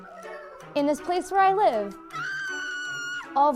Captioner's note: high, trilling scream in the background